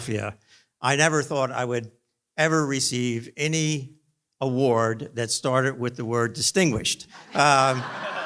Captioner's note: laughter